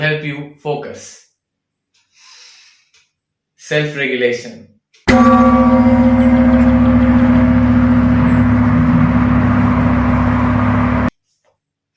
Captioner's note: deep inhalation; gong sound